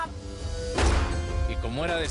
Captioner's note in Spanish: Disparo